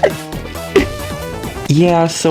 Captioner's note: laughs to myself